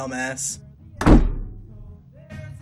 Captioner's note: door slams shut